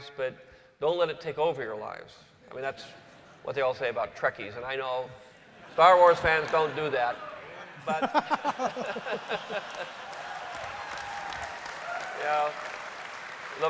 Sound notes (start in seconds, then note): 7.5 laughter; 10.6 cheering and applause